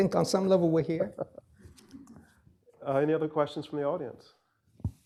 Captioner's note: laughs